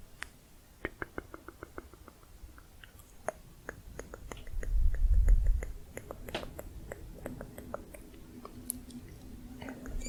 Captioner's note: tongue clicking